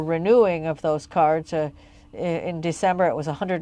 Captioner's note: speaking French